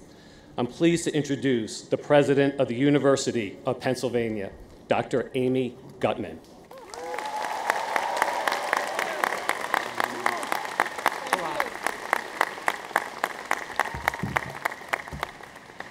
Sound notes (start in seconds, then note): 6.7 audience applauds